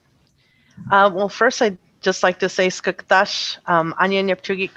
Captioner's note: speaking in traditional language